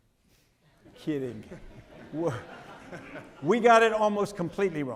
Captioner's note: audience laughing